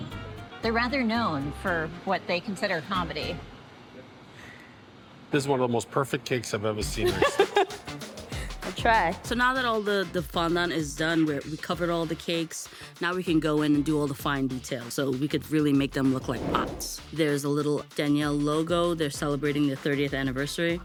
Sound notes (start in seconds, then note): 7.0 laughs